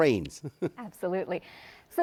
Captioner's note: chuckles